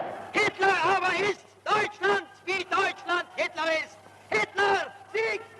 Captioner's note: speaking German